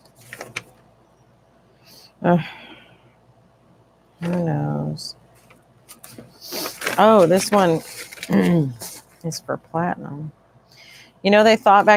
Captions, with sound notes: (sigh) who knows Oh this one is for platinum. Did you know they thought that platinum